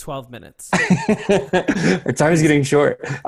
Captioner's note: laughs